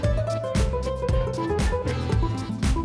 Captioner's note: disgusting sawing noise